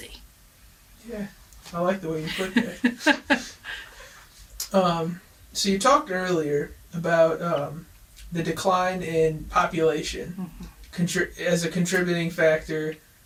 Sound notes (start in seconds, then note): 2.1 laughs